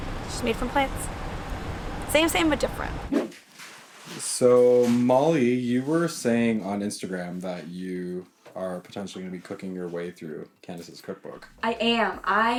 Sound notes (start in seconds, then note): 3.2 whooshing sound